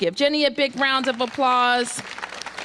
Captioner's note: applause